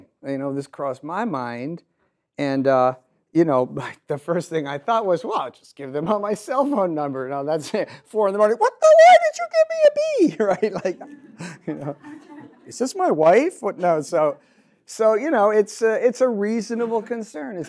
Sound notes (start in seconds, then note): 10.5 audience laughs